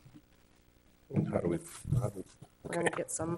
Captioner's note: faintly speaking